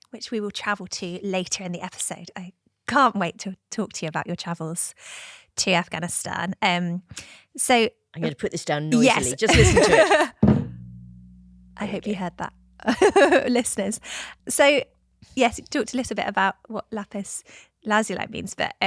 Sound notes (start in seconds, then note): 10.4 stone thuds; 12.8 laughter